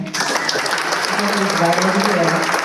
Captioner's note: applause